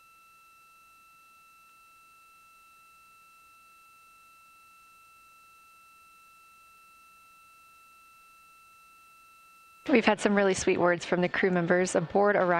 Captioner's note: silence